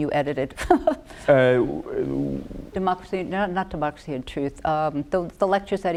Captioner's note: laughter